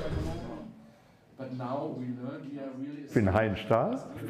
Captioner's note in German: Englische Gesprächsfetzen